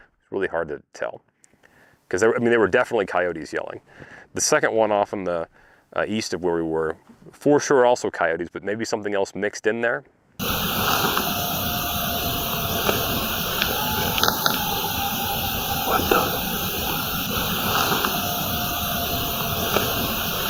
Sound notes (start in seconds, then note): 12.8 howling